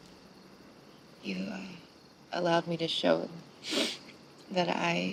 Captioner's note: sniffs